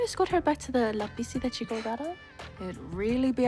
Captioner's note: scoffs